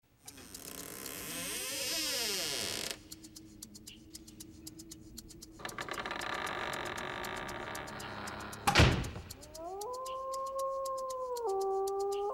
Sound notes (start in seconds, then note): 0.2 door creaking open; 5.6 door creaking closed; 5.6 eerie music; 9.7 wolf howling